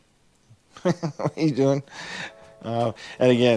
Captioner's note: chuckling